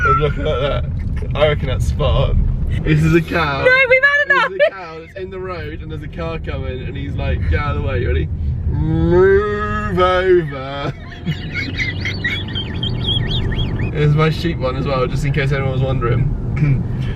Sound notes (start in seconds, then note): 9.7 laughs